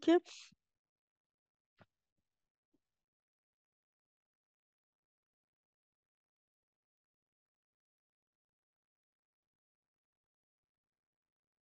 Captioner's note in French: silence